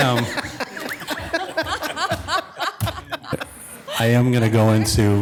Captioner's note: audience laughing